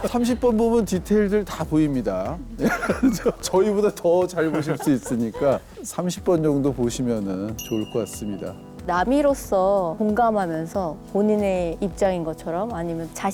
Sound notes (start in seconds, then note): 2.5 laughing out loud